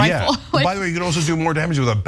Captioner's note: laugh